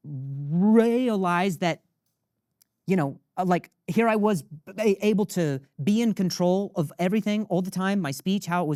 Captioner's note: none